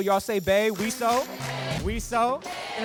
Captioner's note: crowd